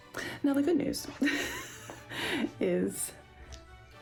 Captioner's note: laughs